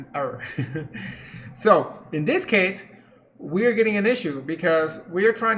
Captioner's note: chuckles